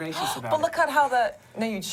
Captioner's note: gasp